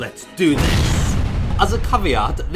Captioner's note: explosion